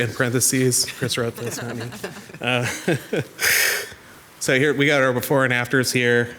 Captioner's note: group laughs